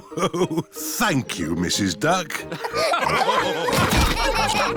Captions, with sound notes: Oh-ho! Thank you, Mrs. Duck. (LAUGHTER)